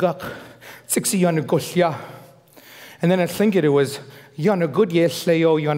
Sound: foreign speaking

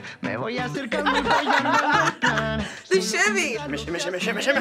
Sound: both laugh

